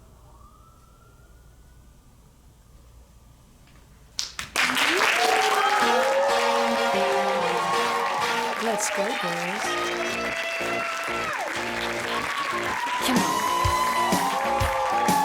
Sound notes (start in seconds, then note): 4.6 cheers and applause; 14.9 continued applause